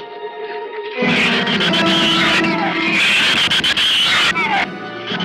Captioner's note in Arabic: صراخ الزبابة